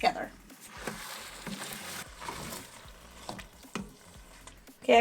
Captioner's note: food sloshing